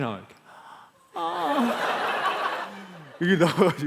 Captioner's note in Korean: 웃음